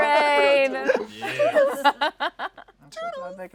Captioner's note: laughs